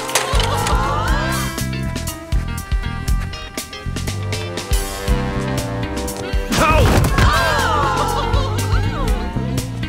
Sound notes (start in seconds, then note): 0.2 crowd chatter; 6.2 gasps; 7.7 laughter